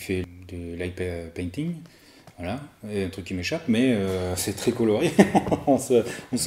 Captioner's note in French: rires